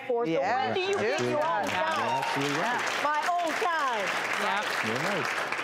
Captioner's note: audience clapping